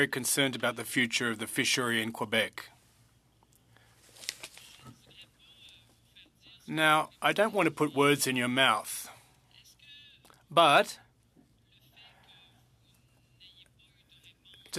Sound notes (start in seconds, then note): 5.8 speaking French